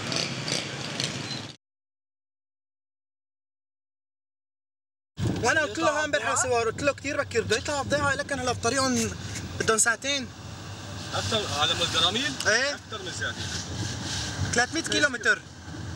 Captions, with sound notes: [Arabic spoken audio] It takes two hours. -To get to Arin? -Yes. More than two hours. It's 30 kilometers at least.